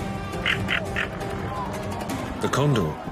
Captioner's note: condor squawking